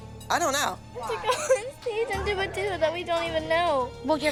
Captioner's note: crying